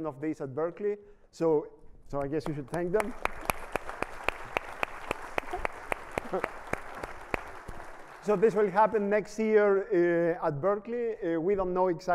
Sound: applause

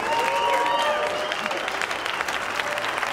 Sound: cheering and applause

